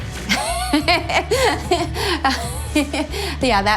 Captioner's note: laughing